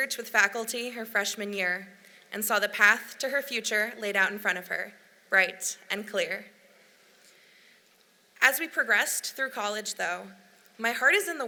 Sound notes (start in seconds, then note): none